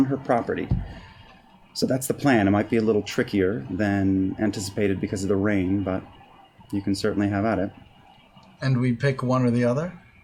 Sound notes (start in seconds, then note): none